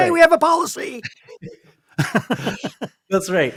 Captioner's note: laughter